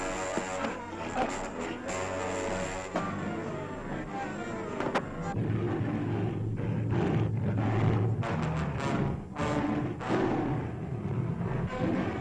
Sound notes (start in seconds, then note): 2.9 gorilla growling; 8.9 dramatic music